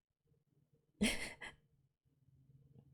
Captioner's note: laughs